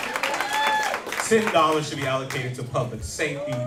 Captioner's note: cheers and applause